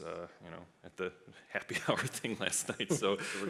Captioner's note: laughs